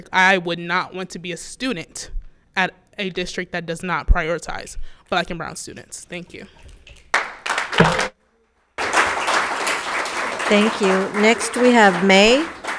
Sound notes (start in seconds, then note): 7.0 audience applauds